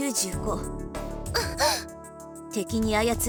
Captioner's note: realization gasp